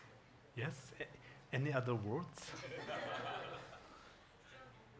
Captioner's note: audience laughing